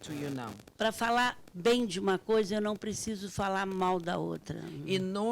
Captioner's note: speaking Portuguese